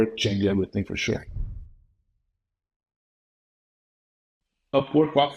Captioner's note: air whooshing